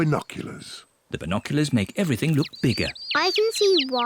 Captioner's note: chirping